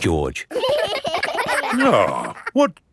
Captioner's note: giggling